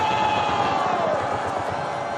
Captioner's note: cheers